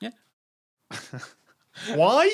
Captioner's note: snickers